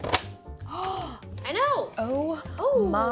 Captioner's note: gasps